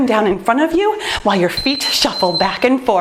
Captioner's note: timer beeps